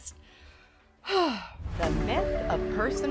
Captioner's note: sigh